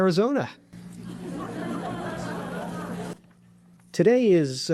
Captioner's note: audience laughing